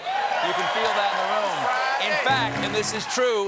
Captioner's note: cheers and applause